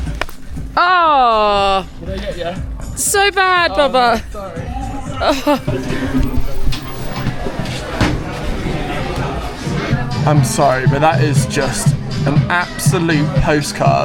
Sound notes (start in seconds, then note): 4.6 huffs; 8.2 people chatter